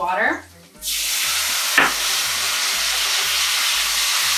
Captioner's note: pan sizzling